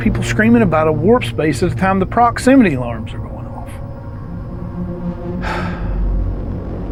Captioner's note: sighs